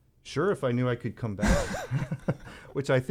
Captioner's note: laughter